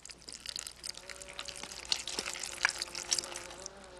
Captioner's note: buzzing